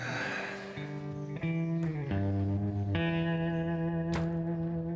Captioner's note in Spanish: exhala